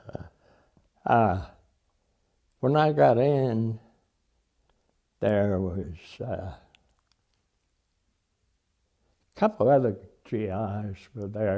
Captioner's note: laughs